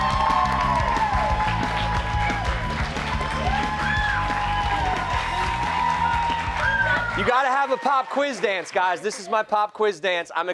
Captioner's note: cheers and applause